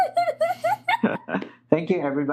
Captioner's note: laughter